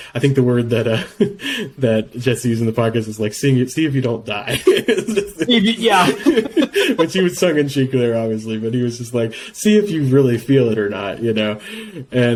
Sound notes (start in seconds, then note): 4.5 laugh